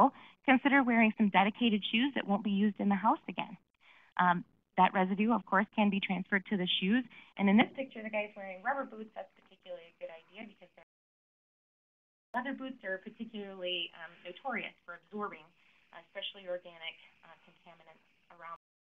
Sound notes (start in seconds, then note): 10.4 audio missing